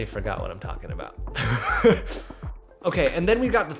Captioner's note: laughing